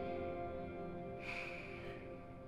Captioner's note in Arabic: تنهد